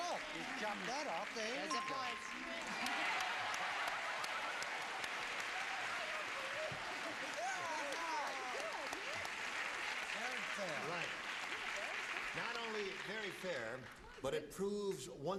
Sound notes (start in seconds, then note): 3.3 cheering and applause